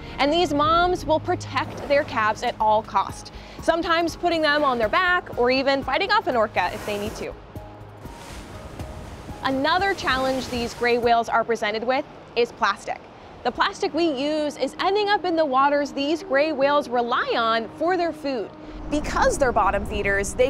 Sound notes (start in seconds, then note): 8.0 water splashing; 14.1 soft music